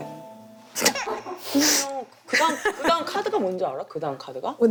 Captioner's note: chocked up